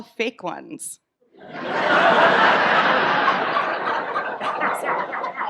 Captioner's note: audience laughs